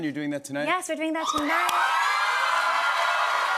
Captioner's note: cheers and applause